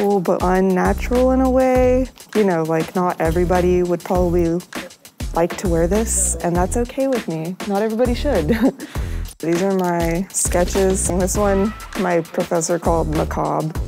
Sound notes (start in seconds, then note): 8.4 chuckles